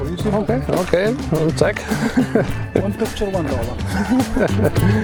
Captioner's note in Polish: śmiech